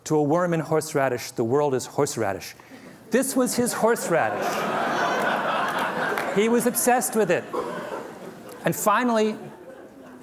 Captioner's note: laughter